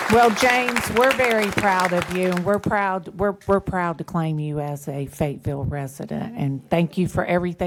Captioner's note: applause